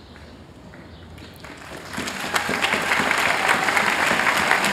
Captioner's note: applause